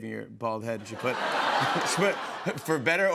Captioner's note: laughter